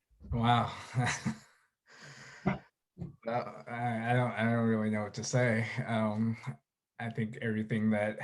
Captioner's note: chuckles